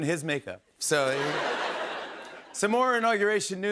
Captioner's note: laughter